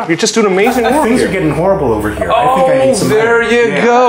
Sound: laugh

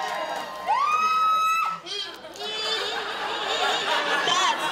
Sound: audience shouts and claps; screaming

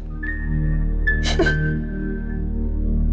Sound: chuckles

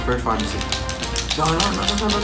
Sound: intensified clicking

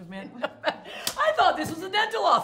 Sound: laughs

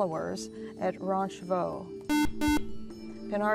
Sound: buzzer

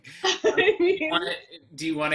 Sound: laughs

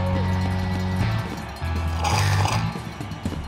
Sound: slurp

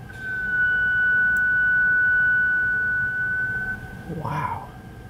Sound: high pitched squeal

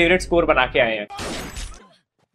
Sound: gunfire

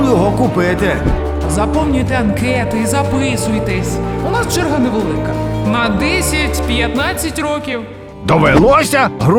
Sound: voice-over

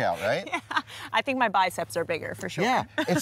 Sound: laughing

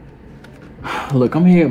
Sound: Cordell sighs

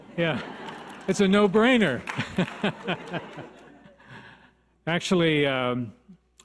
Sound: laughs

